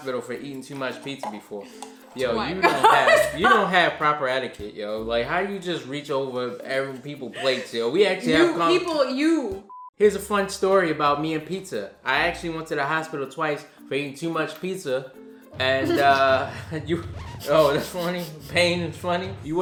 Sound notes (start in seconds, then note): 15.8 laughing